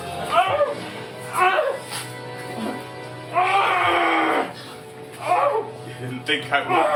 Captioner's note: wounded groaning